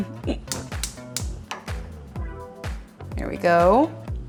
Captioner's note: stove top clicks